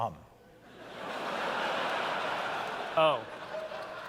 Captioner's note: laughter